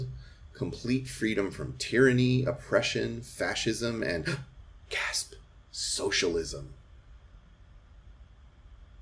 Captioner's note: gasp!